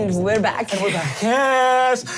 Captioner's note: clapping